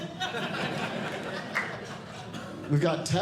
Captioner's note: audience Laughing